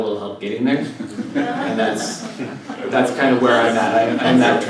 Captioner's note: laugh